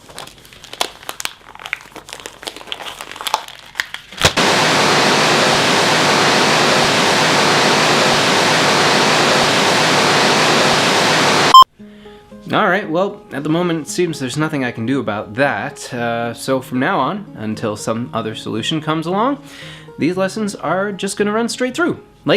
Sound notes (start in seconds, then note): 0.0 crinkling paper; 4.2 paper smacking into the ground; 4.3 technical Difficulties Static; 11.4 beep